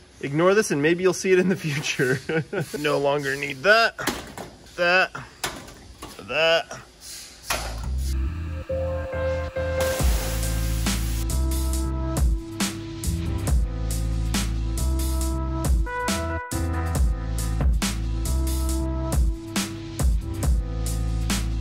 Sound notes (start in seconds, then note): 1.6 laughs; 4.1 thud; 6.2 thud; 8.7 lively electronic music